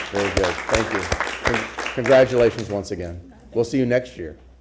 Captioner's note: applause